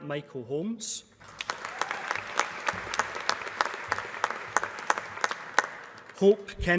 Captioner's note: applause